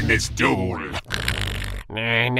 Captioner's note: Marik snores